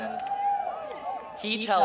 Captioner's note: cheering